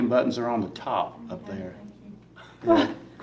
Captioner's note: laughing